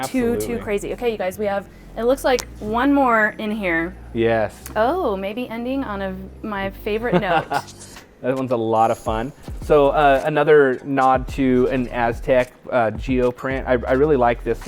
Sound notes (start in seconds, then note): 7.0 laughing